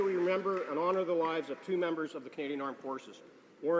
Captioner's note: applause